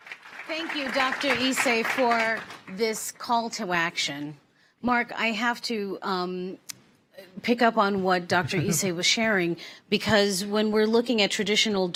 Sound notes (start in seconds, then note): 2.3 applause